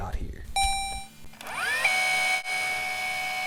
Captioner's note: motor churns